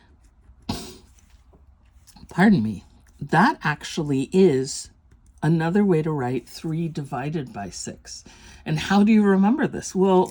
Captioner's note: sneezes